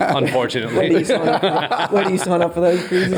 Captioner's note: all laugh